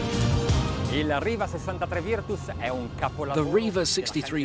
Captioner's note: speaking a foreign language